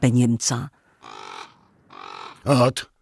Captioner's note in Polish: krakanie kruków